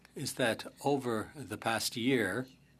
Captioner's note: speaking French